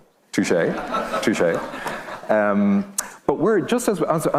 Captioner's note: audience laughing